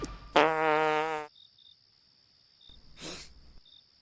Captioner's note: Tommy farts; Gary sniffs